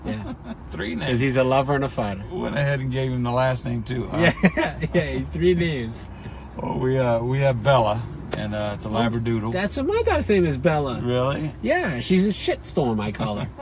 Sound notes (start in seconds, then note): 4.1 laughs